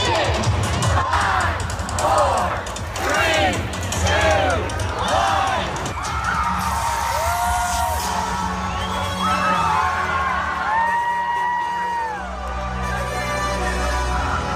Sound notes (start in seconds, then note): 5.0 cheering